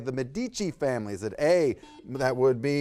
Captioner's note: buzzer beeps